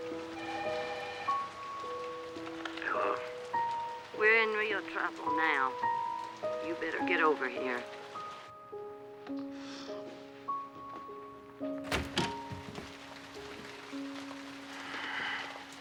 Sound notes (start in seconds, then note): 0.3 telephone rings; 11.6 door opens; 14.7 sighs